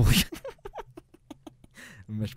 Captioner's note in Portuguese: risos